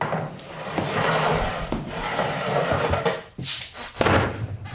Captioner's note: chair scraping; chair thudding